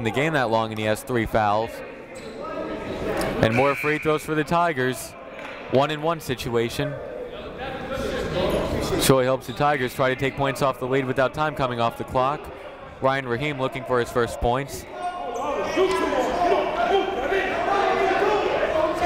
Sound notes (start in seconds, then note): 15.8 shouting